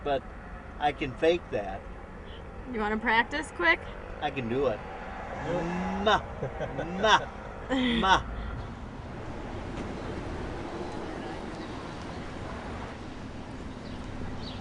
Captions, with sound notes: but I could fake that. - You wanna practice quick? - I can do it. Mmm-ah! Mmm-ah! (laughing)